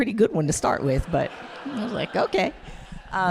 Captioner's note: audience laughing